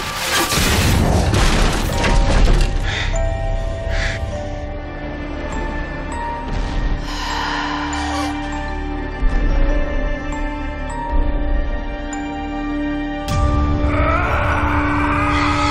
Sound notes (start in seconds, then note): 2.2 panting; 7.0 exhales; 13.5 shouting